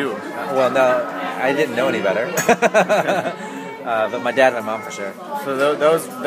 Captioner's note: laughs